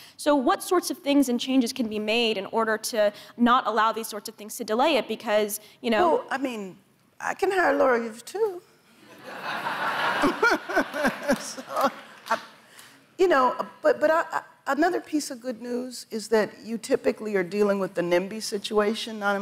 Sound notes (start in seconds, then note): 9.0 audience laughs; 9.1 laughs